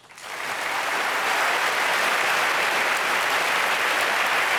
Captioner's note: applause